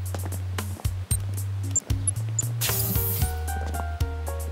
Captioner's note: beeping